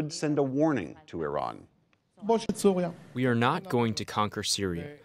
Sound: through translator

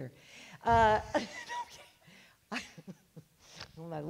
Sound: speaker laughs

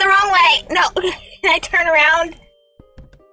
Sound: laugh

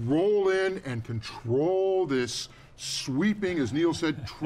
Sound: man chuckles

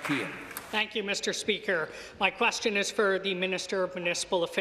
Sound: applause

